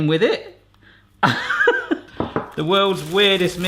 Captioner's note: laughing